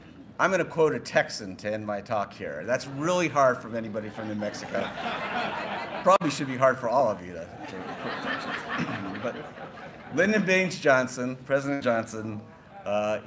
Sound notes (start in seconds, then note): 7.5 laughter